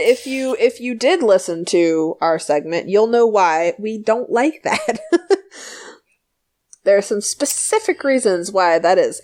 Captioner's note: laughs